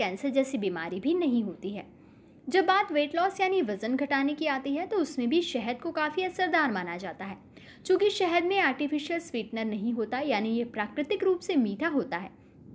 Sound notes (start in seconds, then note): 0.6 hindi